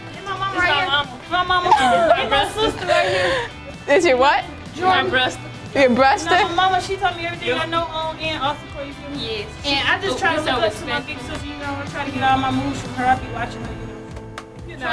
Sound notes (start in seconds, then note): 1.6 laughs; 4.0 voiceover